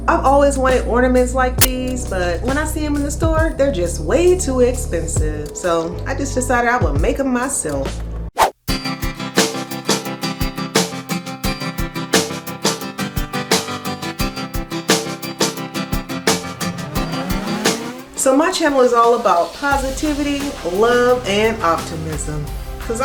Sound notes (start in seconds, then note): 8.4 air whooshing; 8.8 upbeat music